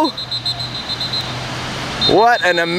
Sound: whistle blows

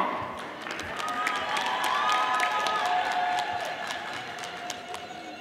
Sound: audience applauding

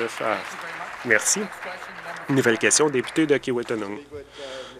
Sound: applause

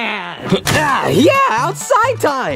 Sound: air quivers

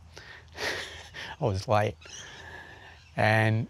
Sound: laughs

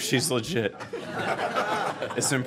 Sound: laughter

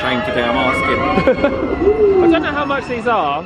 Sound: laughs

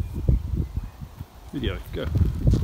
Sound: manly Voice

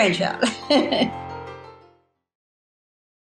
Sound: laughing

